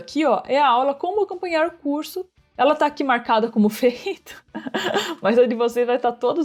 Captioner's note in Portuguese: risos